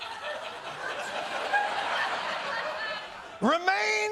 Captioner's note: laughter